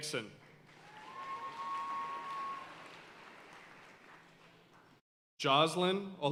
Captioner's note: audience cheering and applauding